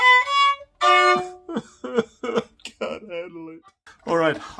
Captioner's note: violin music; mock cries